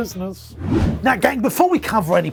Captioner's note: whooshing